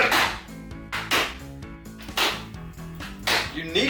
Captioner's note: computer smacking noises